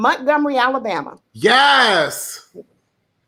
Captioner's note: laughing